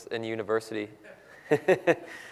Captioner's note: laugh